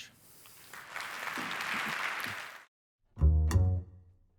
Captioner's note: applause